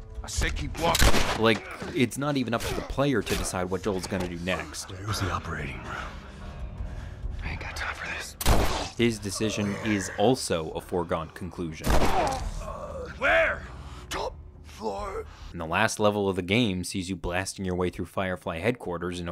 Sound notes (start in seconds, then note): 0.8 gun fires; 8.4 gun fires; 11.8 gun fires